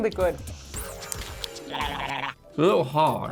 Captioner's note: gurgling noise